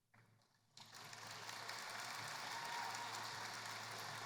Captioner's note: applause